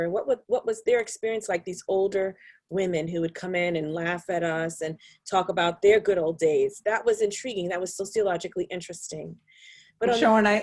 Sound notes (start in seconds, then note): none